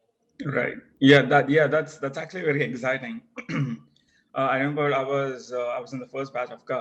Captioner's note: cough